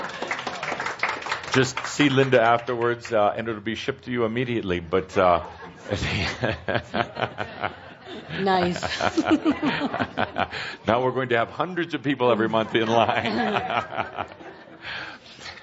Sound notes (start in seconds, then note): 0.0 applause; 5.8 chuckling; 7.9 giggling and chuckling; 10.3 laughing